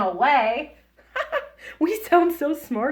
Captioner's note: laughs